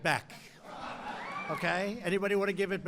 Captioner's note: laughter